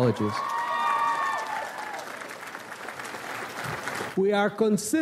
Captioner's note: audience applauds